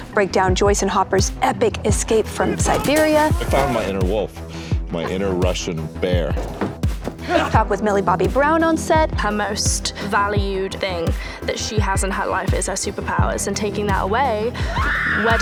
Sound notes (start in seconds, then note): 7.2 man grunts